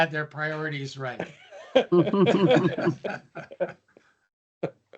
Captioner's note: laughter